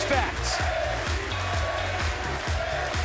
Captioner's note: crowd cheering